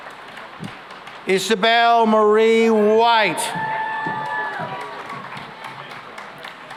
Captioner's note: cheering and applause